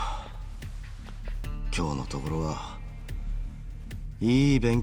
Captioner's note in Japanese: ため息